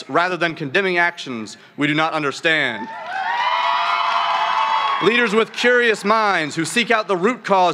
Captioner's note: cheering